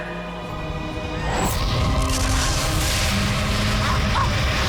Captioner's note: explosion